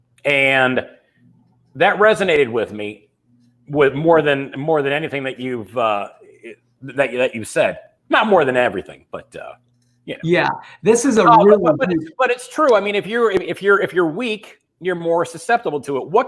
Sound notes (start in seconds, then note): 10.2 murmurs